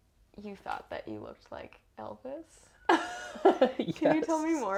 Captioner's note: laugh